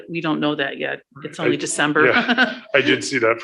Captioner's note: giggles